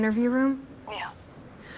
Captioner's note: on phone